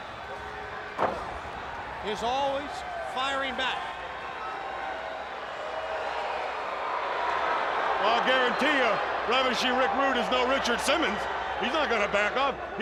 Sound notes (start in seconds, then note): 4.5 crowd cheering